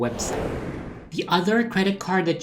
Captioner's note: whooshing